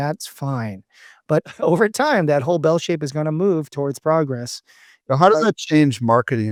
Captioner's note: laughs